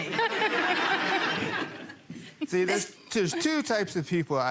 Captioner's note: people laughing